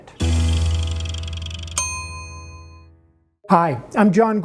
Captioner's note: timer clicks and rings